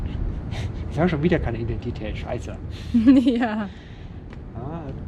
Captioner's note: laughs